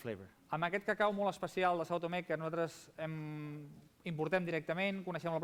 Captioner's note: non-english speech